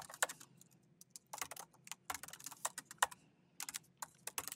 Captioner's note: keyboard clanking